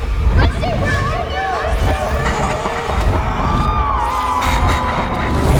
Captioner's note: eerie music; people clamoring